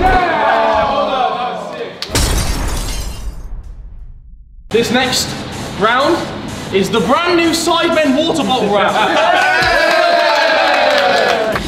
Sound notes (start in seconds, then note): 2.1 glass shattering; 8.8 lads cheering and applauding